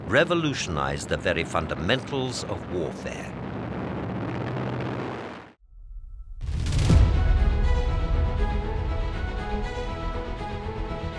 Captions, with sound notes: revolutionized the very fundamentals of warfare. (plane roaring) (lively music)